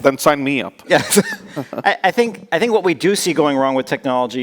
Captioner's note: laughs